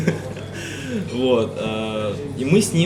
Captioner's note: laughs